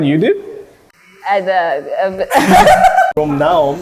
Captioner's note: stutters